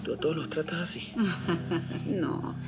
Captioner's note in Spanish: Risas